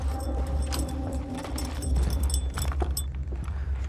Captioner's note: dog tag jingles and rapid footsteps